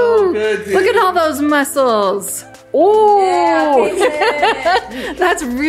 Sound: laughs

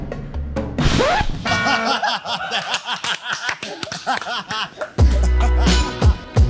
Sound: whimsical music; crowd laughs

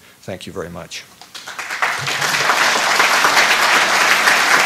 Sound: applause

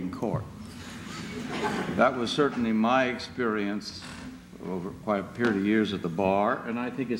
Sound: laughter

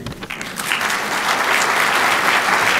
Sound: applause

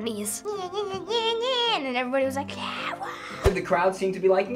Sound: babbles

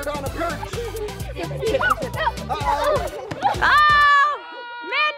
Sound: cheering

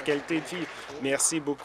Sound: applause

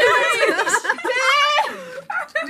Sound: laughter

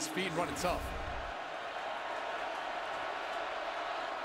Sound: crowd cheering

